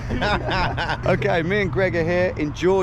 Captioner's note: laugh